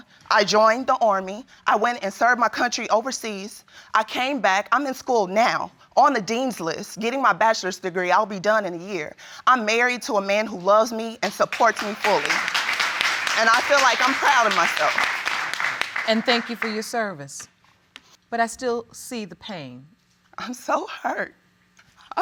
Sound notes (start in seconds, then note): 11.3 audience applauds